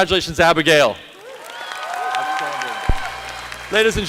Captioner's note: applause